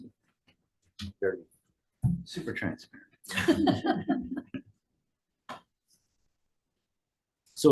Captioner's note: and senators laugh